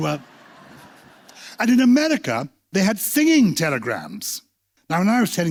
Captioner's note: laughter